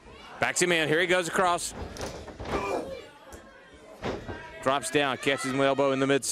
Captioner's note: crowd chatter